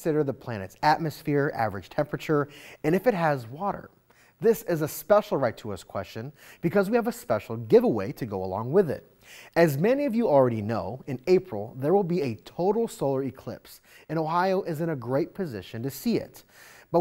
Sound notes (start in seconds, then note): none